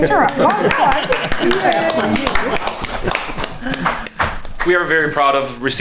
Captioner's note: board members clapping